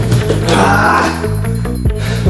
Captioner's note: yelling